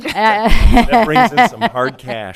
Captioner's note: group laughs